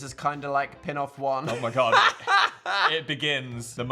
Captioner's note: Dan laughs